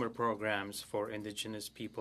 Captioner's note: speaking French